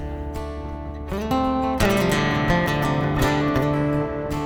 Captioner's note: wind blowing